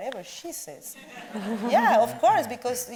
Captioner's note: audience laughs